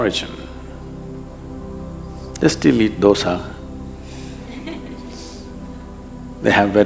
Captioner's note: few laugh